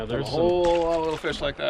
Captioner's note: fish splashing